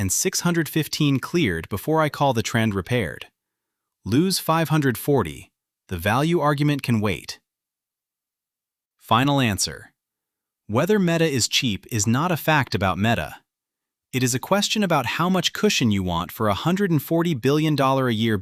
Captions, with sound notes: Lose five hundred forty… the value argument can wait. [pause] Final answer… whether Meta is cheap is not a fact about Meta. It is a question about how much cushion you want for a hundred-and-forty-billion-dollar-a-year build with no companywide return disclosed yet.